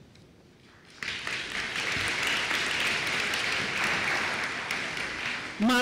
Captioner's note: applause